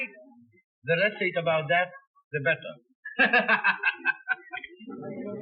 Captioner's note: laughs